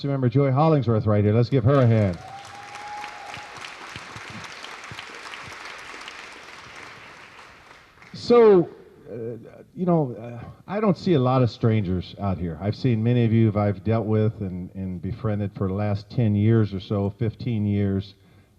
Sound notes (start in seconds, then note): 1.7 cheers and applause